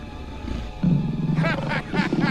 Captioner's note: growling